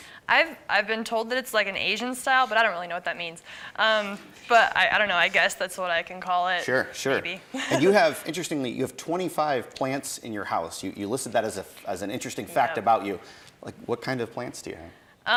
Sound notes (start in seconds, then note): 7.6 chuckles